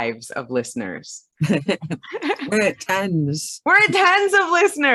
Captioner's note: both laugh